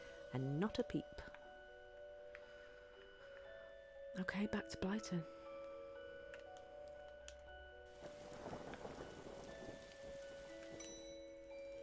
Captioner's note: elevator dings